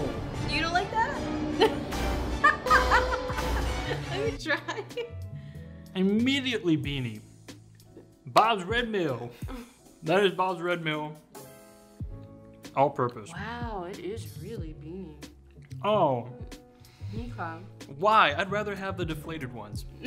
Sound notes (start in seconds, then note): 2.4 laughing; 4.4 gentle upbeat music